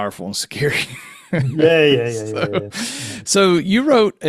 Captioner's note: laughing